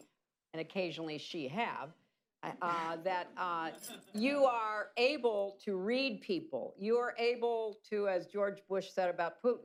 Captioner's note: laughter